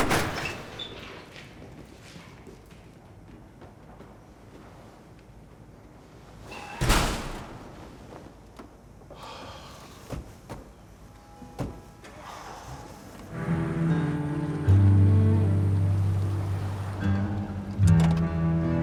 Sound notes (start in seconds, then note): 0.0 doors loudly creaks open and shut; 9.2 Tommy sighs; 9.4 gentle music; 13.6 truck whirring